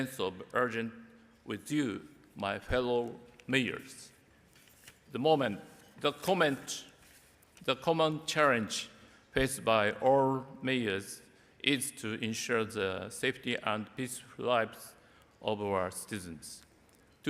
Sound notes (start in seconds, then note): none